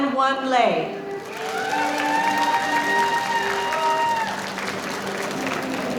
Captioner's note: audience applauding